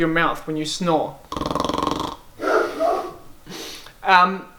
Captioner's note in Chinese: 鼾聲